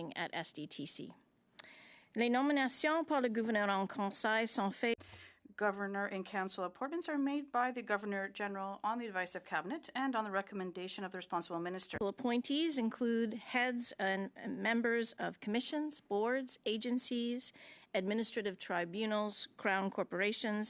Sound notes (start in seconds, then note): 5.7 speaking French